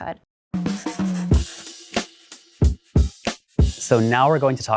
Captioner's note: upbeat music; pencil scribbling